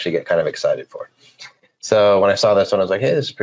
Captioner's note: laughing